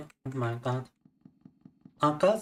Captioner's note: speaking in Russian